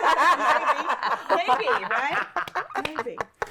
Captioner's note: laughs